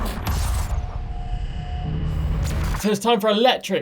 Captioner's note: electronic metallic noises